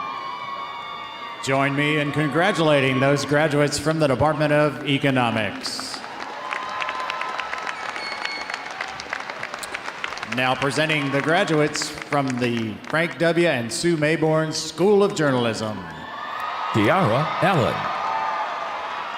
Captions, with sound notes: - Join me in congratulating those graduates from the Department of Economics. (audience applauding) (audience cheering) Now presenting the graduates from the Frank W. and Sue Mayborn School of Journalism. (audience cheering)